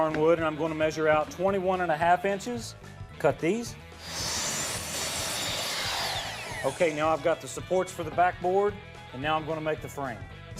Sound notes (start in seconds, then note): 4.0 saw sounds